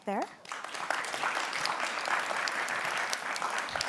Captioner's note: applause